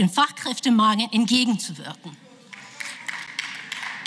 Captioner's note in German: Beifall